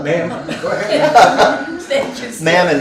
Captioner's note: laughing